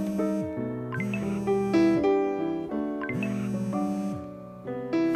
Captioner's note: phone vibrating